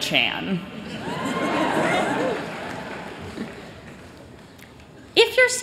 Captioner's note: cheers